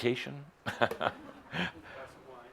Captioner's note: chuckles